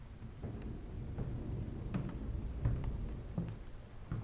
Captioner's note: thunder rolling